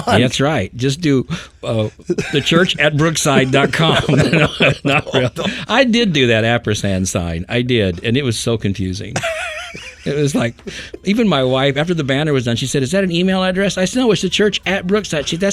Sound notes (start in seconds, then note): 4.1 group laughing; 9.1 person laughing